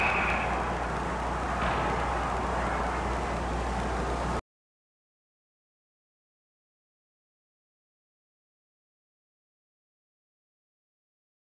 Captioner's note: whistle blows